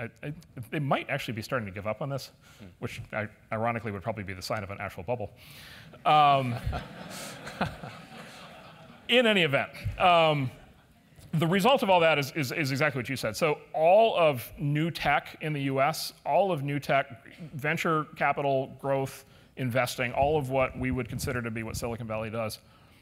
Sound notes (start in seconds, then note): 6.4 laugh